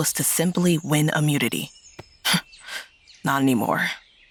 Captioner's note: scoffs